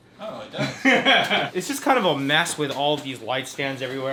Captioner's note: laughs